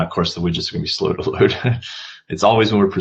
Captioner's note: chuckles